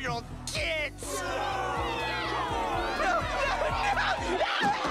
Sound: crowd boos, man shrieks

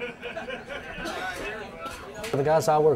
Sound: many conversations, laughter

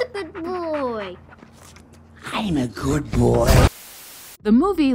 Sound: creepy, undoglike voice

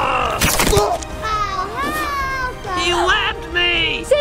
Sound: growls; yelps

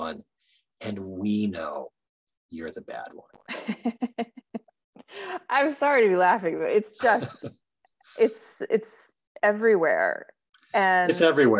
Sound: laughing

